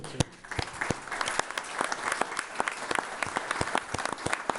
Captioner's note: all applauding